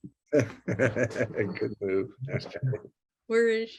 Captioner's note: laughs